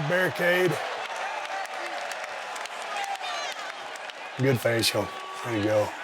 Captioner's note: audience cheering